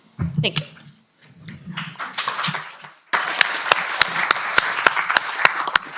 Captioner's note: applause